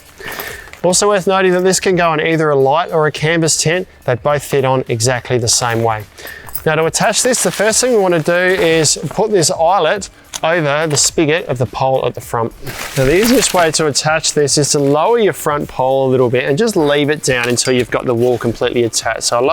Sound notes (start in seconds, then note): 12.0 fabric rustling